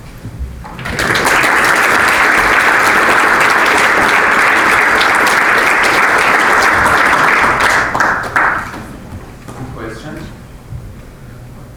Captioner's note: applause